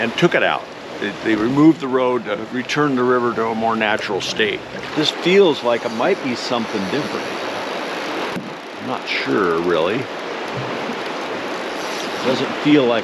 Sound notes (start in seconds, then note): 7.2 reel spinning; 9.3 water flowing